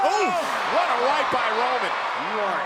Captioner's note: commentators exclaim